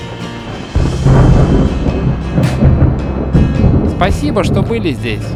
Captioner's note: thunder